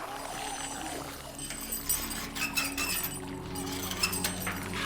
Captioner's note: chains rattling